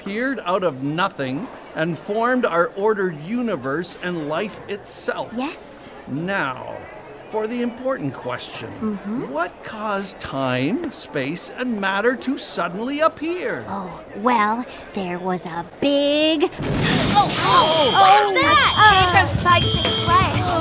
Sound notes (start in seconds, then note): 16.6 explosion